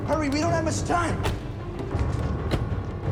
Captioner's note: car door thuds; intense dramatic music